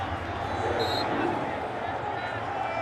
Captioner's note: whistle blows